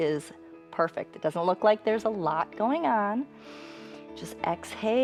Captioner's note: inhales